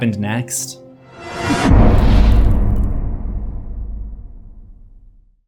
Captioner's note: impact